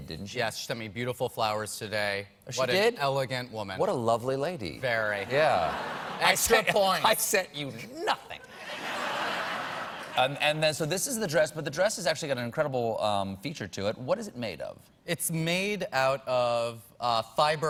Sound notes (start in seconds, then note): 5.3 laughter